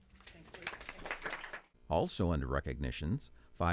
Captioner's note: crowd applauds